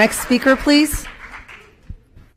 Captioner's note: applause